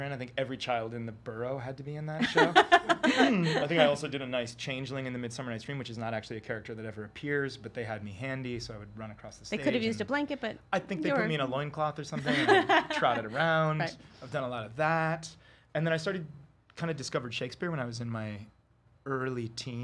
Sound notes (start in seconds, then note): 2.2 laughter